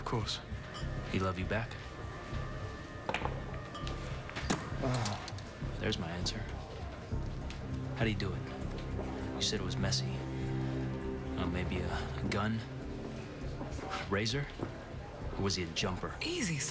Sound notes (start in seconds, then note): 4.6 groans